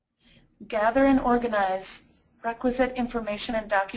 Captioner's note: voiceover